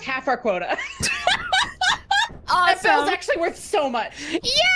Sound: laughs

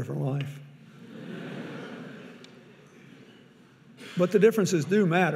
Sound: audience laughing

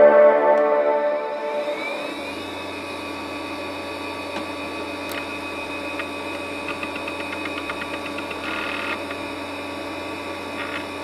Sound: computer boot chime

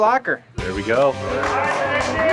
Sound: cheering

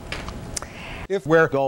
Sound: woman takes a breath

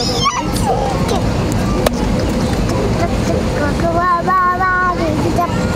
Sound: exclaims excitedly

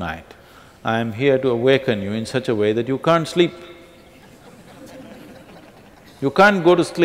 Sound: laughter

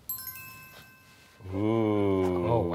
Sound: chimes chiming

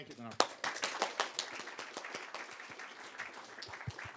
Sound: applause

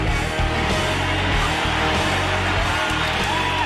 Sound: applause

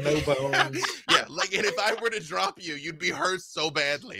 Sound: laughing

